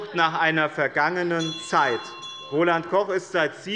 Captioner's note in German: Unruhe - Glockenzeichen des Präsidenten